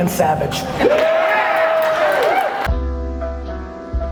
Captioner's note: cheers